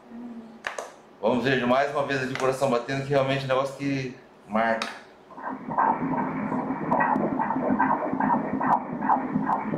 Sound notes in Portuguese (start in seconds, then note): 0.3 murmúrio de afirmação; 5.3 batidas do coração